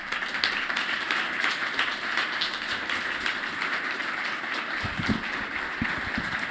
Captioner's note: applause